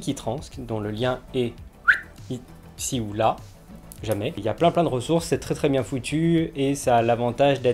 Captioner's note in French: siffle